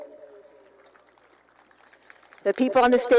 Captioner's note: applause